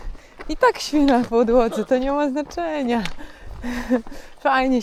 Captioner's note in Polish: śmiech